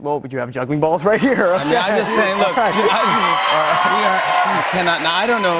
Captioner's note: cheers and applause